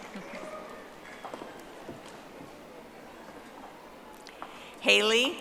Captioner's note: audience applauding